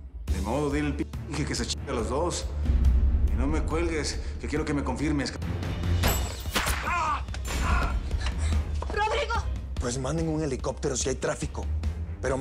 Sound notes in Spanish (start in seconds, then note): 6.0 Disparo; 8.0 Quejidos